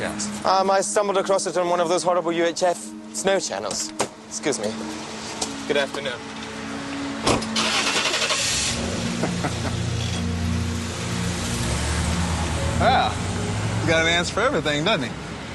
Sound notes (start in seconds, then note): 7.2 Стартира двигателят на автомобила